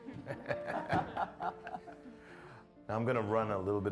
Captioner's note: todos se rían